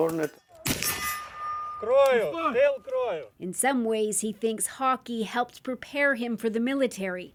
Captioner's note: shooting